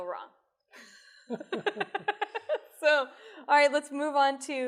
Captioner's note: laughter